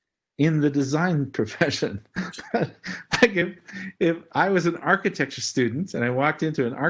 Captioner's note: laugh